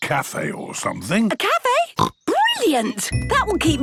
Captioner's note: snorts